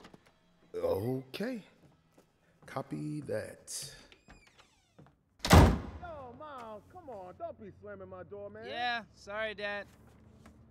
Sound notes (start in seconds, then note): 5.4 door slams